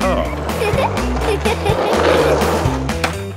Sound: giggles

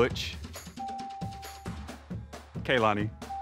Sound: bell ringing

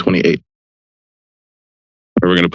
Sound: silence

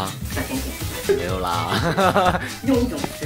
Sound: laugh

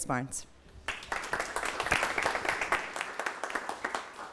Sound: applause

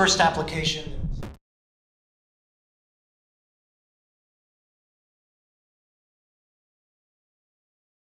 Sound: audio fades. Microphone impact

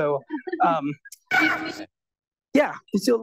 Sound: laughs; beeps

